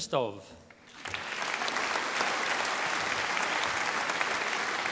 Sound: audience applauding

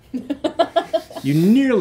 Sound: laughing

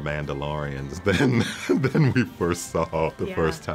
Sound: laughing

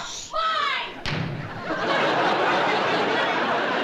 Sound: door slams shut

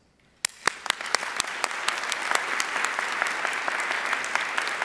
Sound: audience applauding

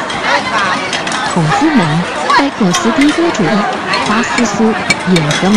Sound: Mandarin

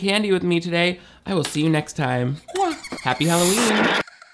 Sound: kisses

